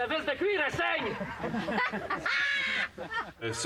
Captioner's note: rires